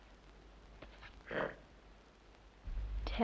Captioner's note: growls softly